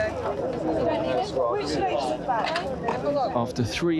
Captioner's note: all chatting